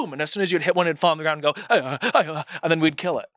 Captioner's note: makes sound effects